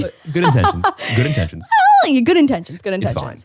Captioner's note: laughing